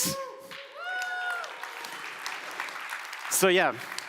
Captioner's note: audience applauds